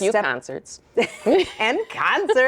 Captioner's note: both chuckle